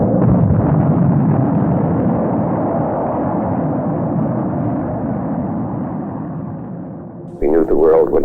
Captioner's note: explosion